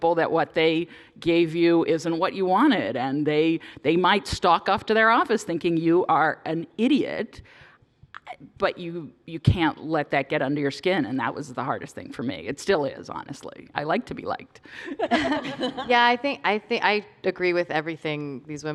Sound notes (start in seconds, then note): 14.8 laughter